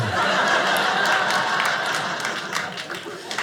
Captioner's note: audience laughing